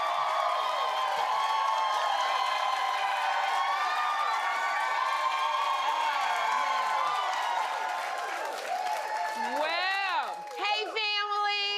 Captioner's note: cheers and applause